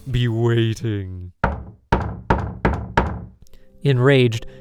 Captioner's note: aggressive knocking at the door